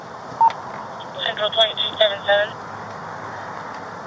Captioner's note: radio chatter